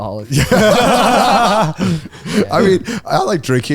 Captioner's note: all laughing